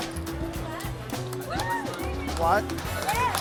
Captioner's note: cheering